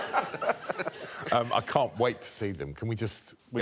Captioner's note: laughter